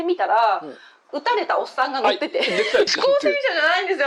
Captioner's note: laughs